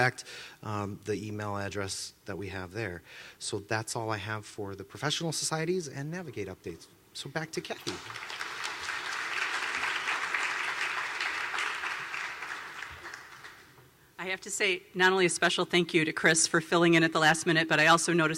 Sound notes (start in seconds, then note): 11.1 applause